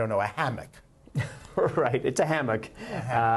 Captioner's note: laughter